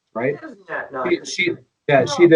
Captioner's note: sarcastic